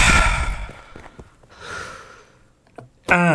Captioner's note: deep sigh